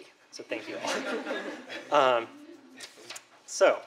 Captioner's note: laughter